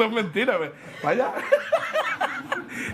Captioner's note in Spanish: Risas